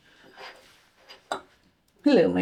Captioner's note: ceramic clink